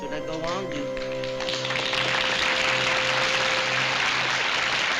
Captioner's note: applause